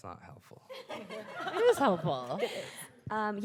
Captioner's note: group laughing